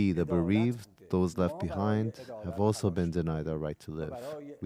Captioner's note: speaking Alternate Language